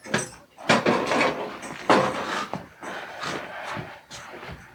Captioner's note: pots rattling